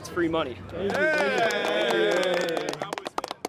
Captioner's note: friends cheering